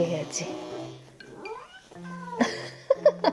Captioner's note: meow